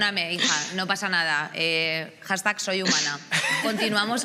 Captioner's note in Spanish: algunos ríen